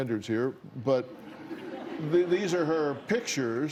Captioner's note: laughter